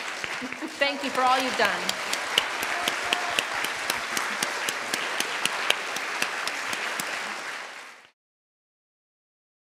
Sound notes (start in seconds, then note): 3.9 audience applauding